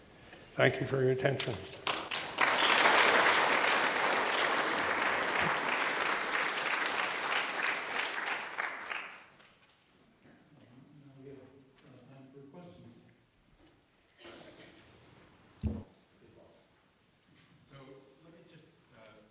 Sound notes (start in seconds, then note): 1.3 applause